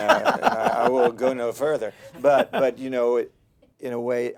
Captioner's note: laughter